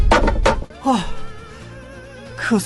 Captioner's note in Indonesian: Menghela napas